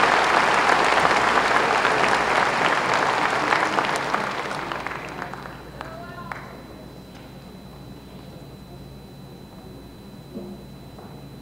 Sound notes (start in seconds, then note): 1.6 applause